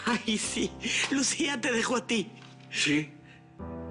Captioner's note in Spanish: Riendo